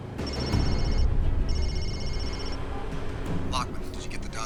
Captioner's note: phone ringing